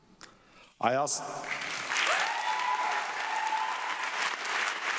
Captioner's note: audience clapping